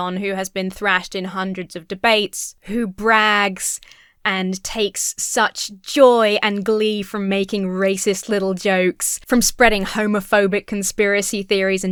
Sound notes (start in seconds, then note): none